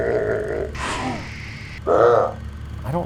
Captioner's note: laughs